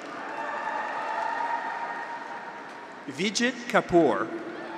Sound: graduates cheer

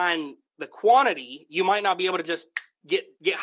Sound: snaps finger

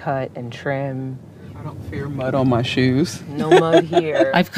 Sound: laughs

